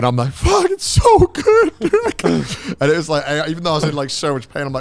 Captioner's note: whimpering